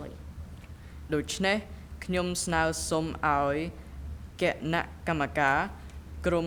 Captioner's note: speaking in a foreign language